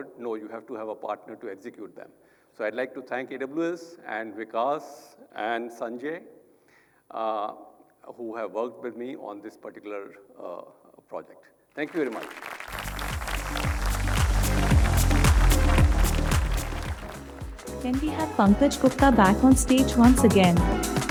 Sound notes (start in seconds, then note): 11.8 audience applauding; 12.6 upbeat music